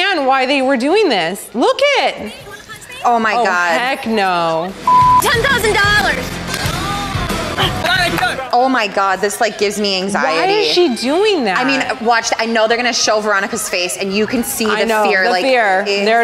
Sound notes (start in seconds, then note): 4.8 beep; 7.9 male Voice